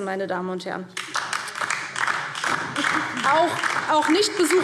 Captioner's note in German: Beifall DIE LINKE